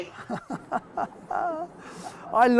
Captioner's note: laughs